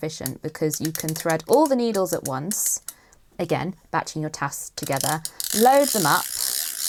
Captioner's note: gadget whirring